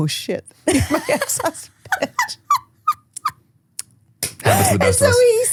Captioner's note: both laughing